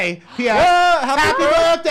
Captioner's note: cheers